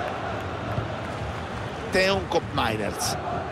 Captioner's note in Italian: Applauso